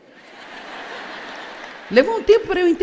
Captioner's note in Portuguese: audiência ri